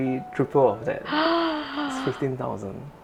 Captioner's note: gasp